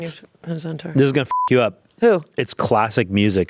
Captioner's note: beep